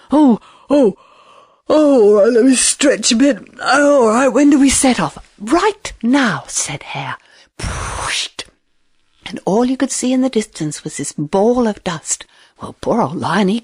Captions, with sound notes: 'Oh, oh, oh well let me stretch a bit. All right, when do we set off.' 'Right now.' Said hare. [Whooshing noise] and all you could see in the distance, was this ball of dust. Well, poor old lion.